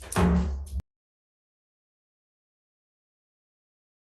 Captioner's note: room rustling